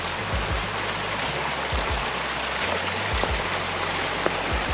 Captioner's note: sound of running water